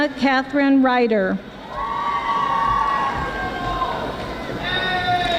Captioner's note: audience applauding